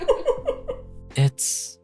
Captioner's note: laughing